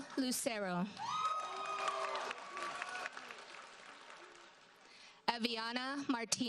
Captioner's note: audience cheers and applauds